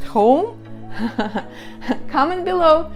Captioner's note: laughing